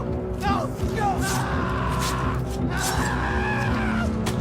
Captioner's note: victim screaming